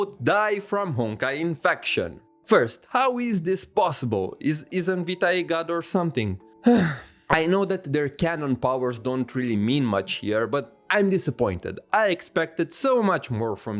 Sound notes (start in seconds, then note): 6.6 sigh